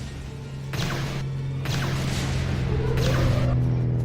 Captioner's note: laser blasts